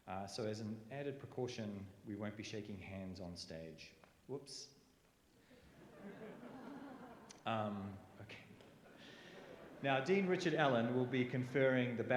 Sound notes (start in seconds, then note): 5.6 laughter